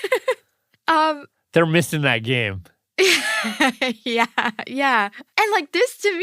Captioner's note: laughs; laughs